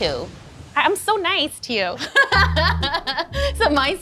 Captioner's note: laughs